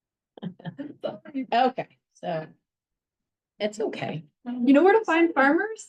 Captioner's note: laughs